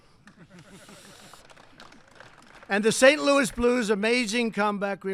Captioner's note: applause